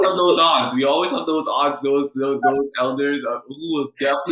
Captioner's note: speaking faintly